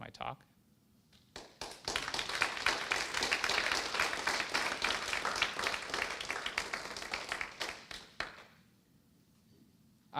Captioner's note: applause